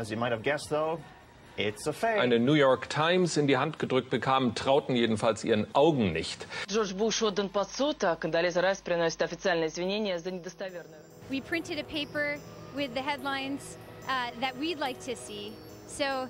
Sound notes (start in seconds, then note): 2.1 speaking German; 6.1 speaking French